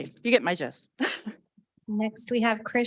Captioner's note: laughing